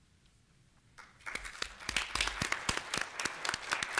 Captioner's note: applause